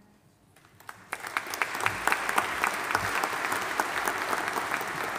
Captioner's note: audience applauding